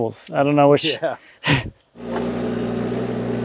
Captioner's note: chuckling